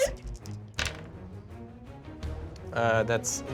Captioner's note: rolls dice